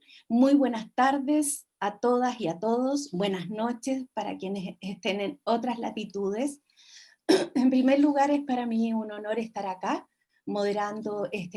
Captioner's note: speaking Spanish